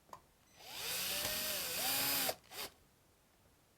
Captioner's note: drilling